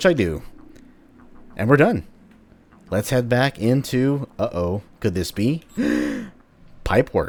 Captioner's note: le gasp